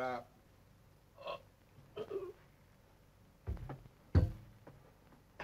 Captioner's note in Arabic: أنطون يتأوه